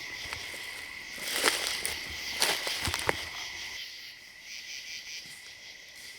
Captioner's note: leaves crunching; insects chirping